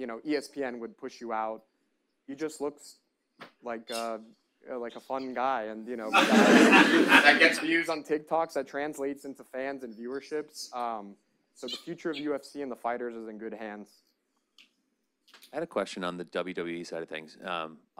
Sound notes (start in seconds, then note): 6.1 audience laughs